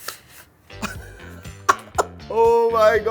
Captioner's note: laughs